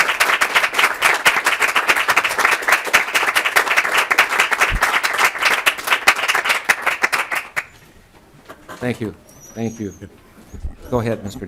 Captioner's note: applause